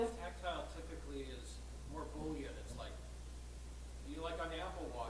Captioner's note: voiceover